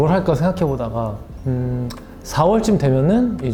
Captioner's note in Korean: 으음